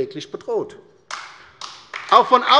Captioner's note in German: Beifall bei der LINKEN